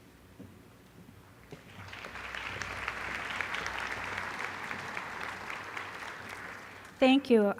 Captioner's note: applause